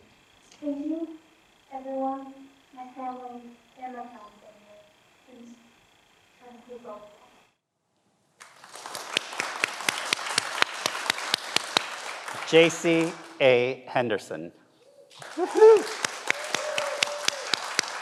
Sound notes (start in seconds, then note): 8.4 everyone applauds; 15.1 everyone applauds